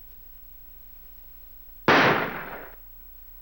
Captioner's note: gunshot